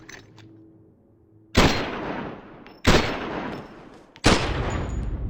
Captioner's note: gun firing